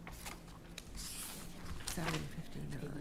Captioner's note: pages rustling